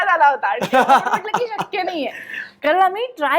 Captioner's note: chuckles